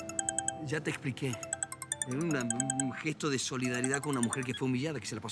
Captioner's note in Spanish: Suena el celular